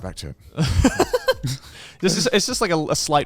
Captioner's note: laughs